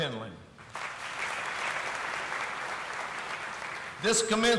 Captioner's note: audience applauding